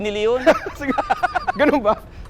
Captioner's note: laughs